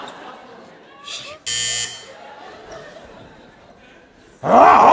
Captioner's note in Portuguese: campainha